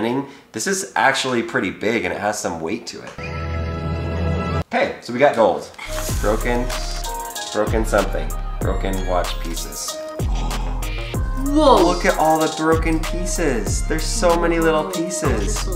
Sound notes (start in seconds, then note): 3.2 classical music; 10.1 man gasps